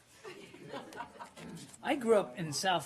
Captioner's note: laughter